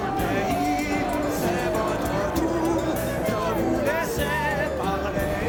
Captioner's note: cheering